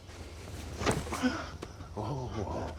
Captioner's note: gasps